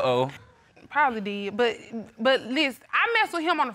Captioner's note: stammers